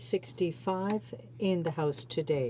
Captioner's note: speaking in French